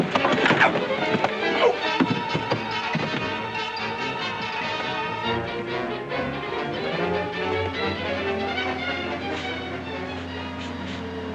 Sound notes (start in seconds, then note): 0.2 sounds of scuffling; 2.8 suspenseful music